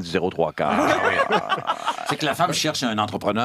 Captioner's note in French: rires